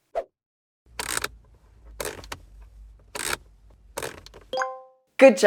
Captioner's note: wrench turning